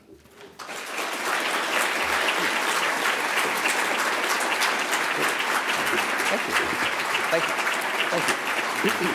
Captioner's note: applause